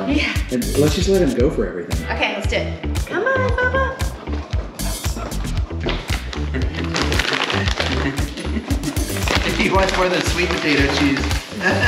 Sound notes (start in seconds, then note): 7.0 laughing